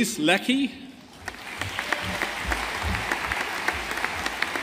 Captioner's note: audience applauding